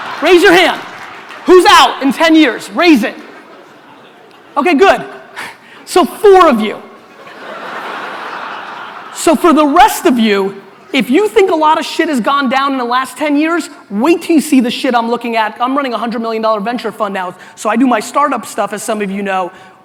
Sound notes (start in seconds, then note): 7.0 audience laughter